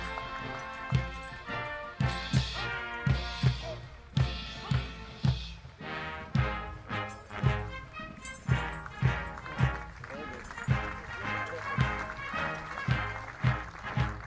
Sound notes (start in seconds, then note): 6.7 audience applauding